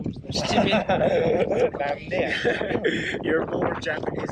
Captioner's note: laughing